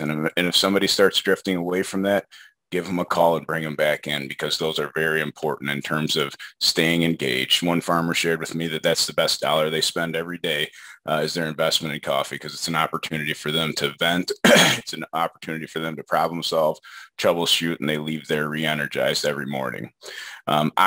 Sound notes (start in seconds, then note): 14.4 clears throat